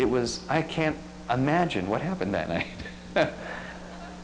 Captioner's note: laughs